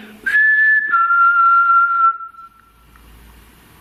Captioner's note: whistling